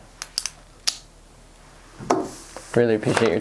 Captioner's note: pen clicking